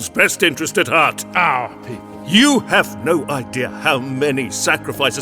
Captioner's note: sarcastically